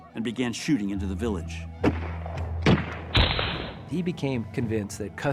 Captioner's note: firing